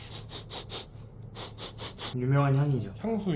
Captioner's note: sniff sniff